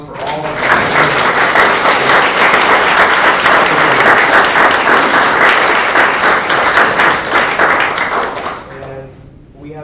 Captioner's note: applause